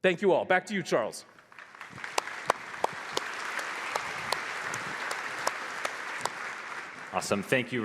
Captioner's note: applause